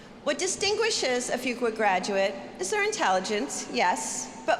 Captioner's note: none